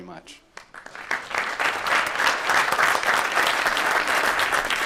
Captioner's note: applause